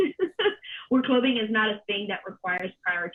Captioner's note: laughter